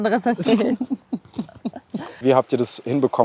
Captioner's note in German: Lachen